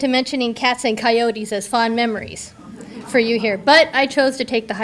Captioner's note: audience laughter